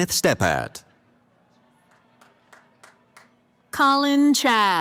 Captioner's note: applause